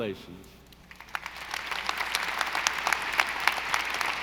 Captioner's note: audience applauding